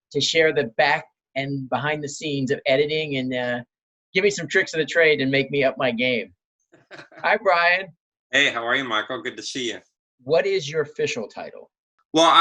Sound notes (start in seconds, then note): 6.8 laughing